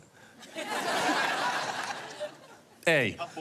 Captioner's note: laughter